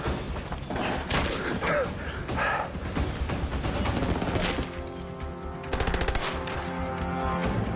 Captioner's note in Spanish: Disparos